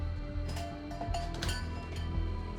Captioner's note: doorbell clangs